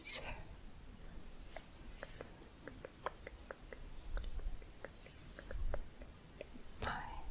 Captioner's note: tongue clicking